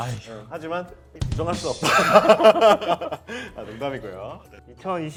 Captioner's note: haha